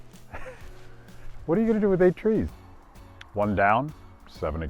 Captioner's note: laughs